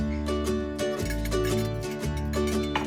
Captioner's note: gentle, upbeat music; cutlery clinks